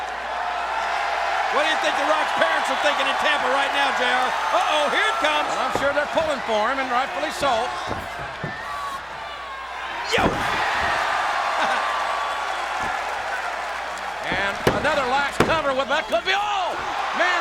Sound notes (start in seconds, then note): 0.1 crowd cheers; 10.1 elbow thuds; 11.4 crowd cheers